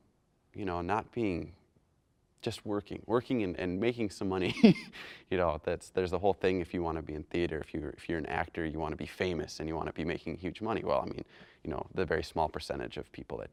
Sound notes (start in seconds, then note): 4.4 chuckles